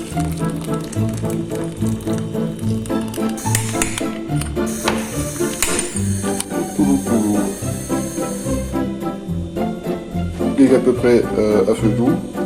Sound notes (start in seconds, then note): 0.0 sound of running water; 2.6 clicks; 5.3 click